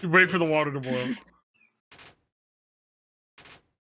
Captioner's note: laughs